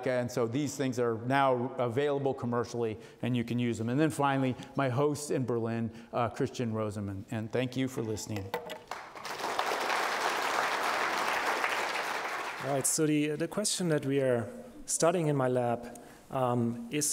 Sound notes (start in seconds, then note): 8.8 audience applauding